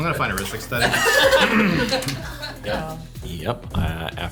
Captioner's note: all laughing